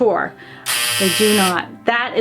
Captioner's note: buzzer blares